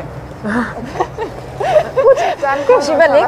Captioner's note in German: Lachen